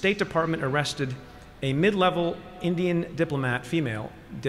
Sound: none

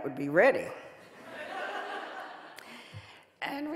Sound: audience laughing

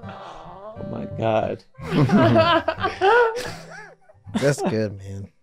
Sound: Glenn chuckling; Megan laughing

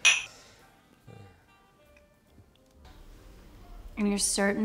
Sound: glasses clinking

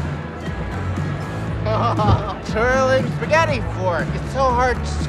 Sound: laughs

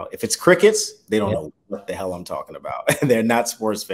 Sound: chuckles

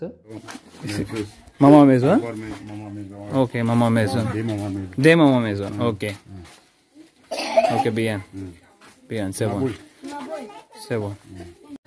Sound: speaking in Foreign language

